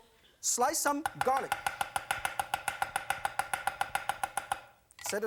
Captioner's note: knife chopping noises